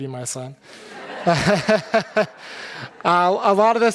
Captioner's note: audience laughing